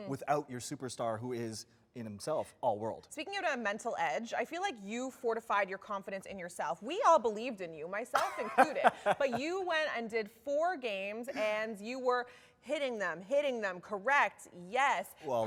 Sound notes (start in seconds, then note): 8.2 laughs